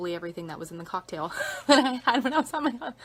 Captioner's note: laughs